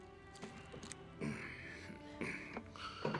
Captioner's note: Seth clears throat